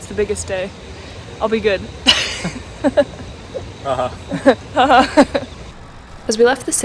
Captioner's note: laughs nervously